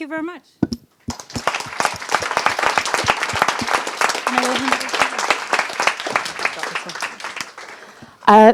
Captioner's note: applause